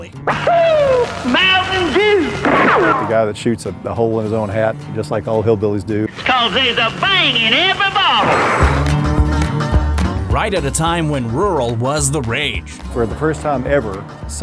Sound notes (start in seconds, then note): 2.3 gunshot; 8.2 explosion